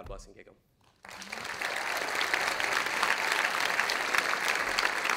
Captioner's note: audience applauding